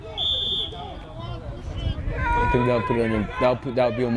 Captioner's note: whistle